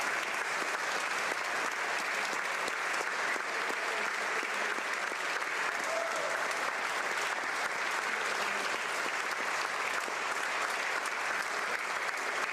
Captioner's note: applause